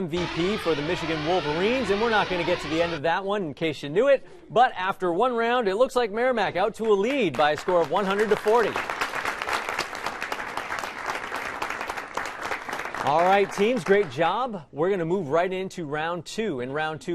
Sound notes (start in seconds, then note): 8.9 applause